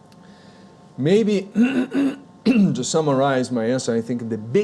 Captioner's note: clears throat